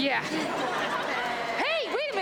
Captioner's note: audience laughs